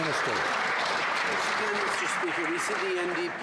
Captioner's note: some Applause